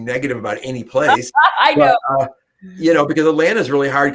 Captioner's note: laughter